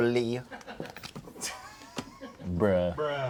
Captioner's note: crew laughs